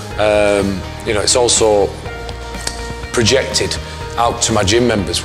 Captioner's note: skin smacks